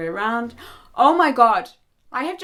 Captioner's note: gasping in horror